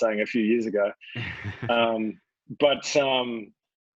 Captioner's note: laughs